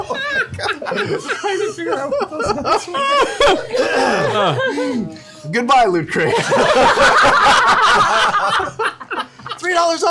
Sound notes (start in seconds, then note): 0.0 laughter; 3.6 clears throat; 6.2 laughter